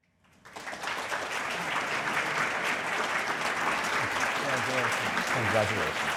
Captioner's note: audience applauding